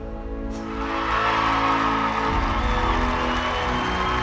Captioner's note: crowd cheering